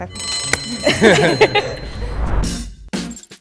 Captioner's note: alarm bell rings; electronic music